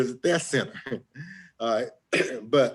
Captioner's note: chuckles